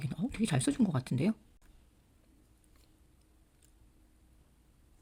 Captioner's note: pause